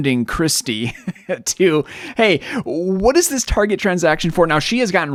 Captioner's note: laughing